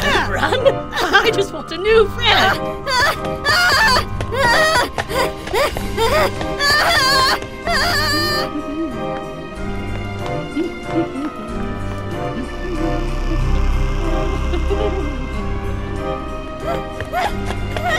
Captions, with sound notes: Don't Run! I just want a new friend.. *screams continues*